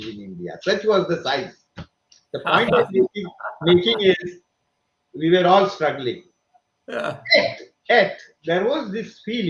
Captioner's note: laughs